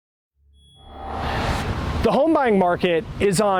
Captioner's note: air whooshing